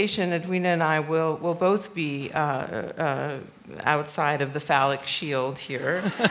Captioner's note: laughter